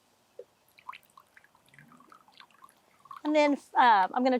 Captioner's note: liquid burbling